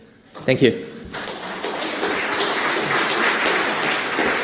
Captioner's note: audience claps